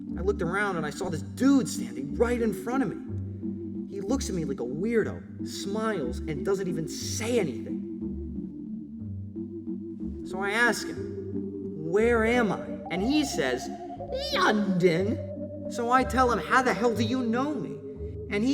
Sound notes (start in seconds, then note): 13.8 in British Accent